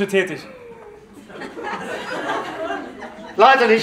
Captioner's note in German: Lachen